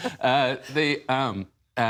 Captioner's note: laughter